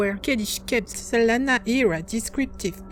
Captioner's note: none